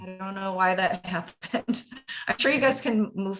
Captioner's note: laughs